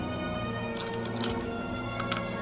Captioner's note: coins rattling